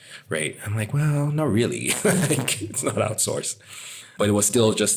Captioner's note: laugh